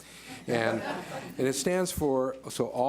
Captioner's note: board members laugh